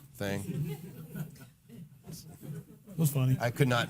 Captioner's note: laughing